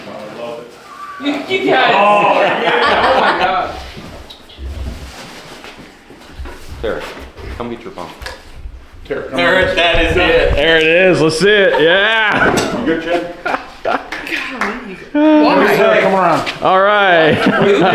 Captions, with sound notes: I love it. You guys. Oh my God. (laughing) There, come get your pump. There it is. That is it. There it is, let's see it, yeah. Here, chip. (laughing) Come on. All right.